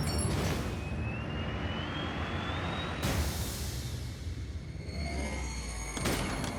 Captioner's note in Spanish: ruido del vehículo